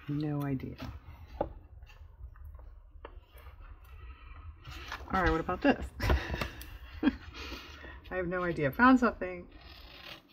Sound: laughs

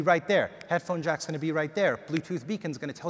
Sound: snaps fingers; snaps fingers

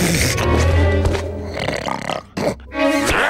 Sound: shivering; snoring

